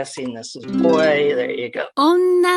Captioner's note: software makes correct answer sound; software says "onnanoko"